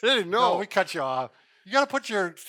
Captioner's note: laughs